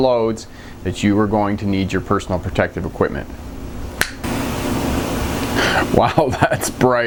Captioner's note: snapping finger